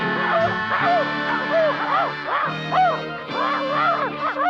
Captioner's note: Arrow barking